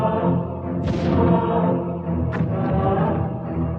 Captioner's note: booming